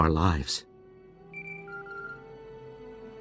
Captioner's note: Holocom beeps